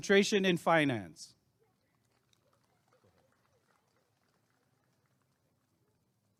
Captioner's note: applause and cheering